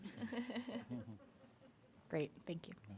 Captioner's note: board members chuckling